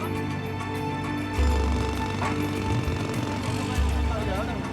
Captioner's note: jackhammering Continues